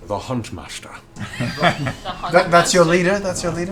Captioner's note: laughter